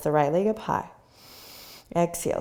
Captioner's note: inhaling